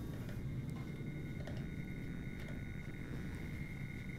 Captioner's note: digital noise in the background